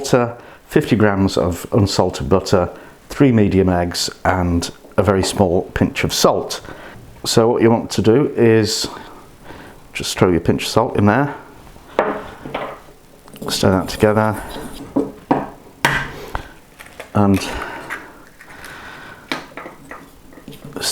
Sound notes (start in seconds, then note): 14.9 stirring; 15.8 egg cracking